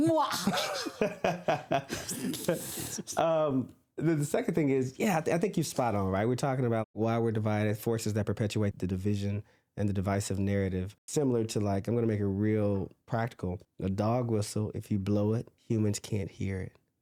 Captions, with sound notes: Muahahaha!!! (Laughter) The second thing is, yeah, I think you spot on, right? We're talking about why we're divided forces that perpetuate the division and the divisive narrative, similar to like, I'm going to make a real practical dog whistle. If you blow it, humans can't hear it.